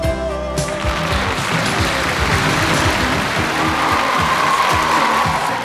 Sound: audience cheers and applauds

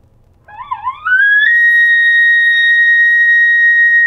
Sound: elk call

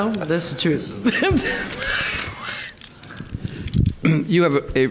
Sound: laughs loudly

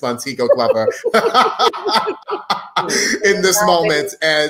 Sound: laugh

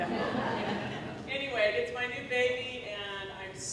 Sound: laughter

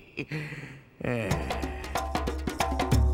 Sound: evil laughter; sighs

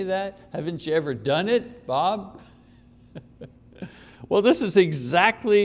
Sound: chuckles

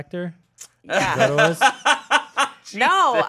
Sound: laughing

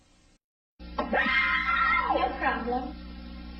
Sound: kids screaming

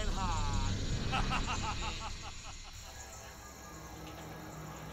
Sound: cackles

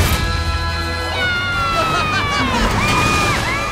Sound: cheering

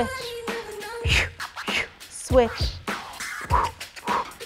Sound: puffs twice

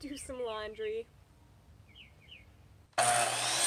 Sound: birds chirping

